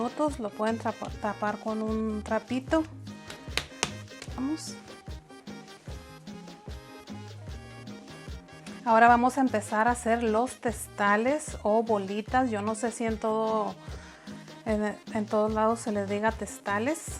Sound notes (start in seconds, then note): 3.2 slaps